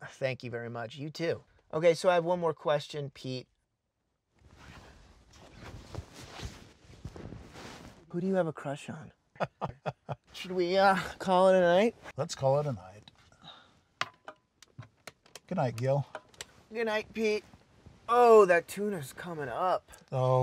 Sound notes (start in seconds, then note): 9.4 laughing; 15.3 lights switching